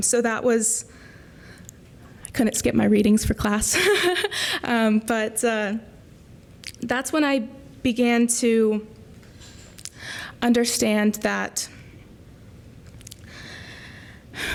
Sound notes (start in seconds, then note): 3.7 laughter